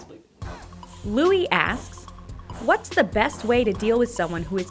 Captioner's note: voiceover